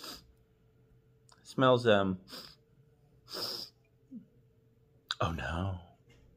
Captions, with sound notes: (sniffing) Smells um..... (deep sniff) Oh nooooo.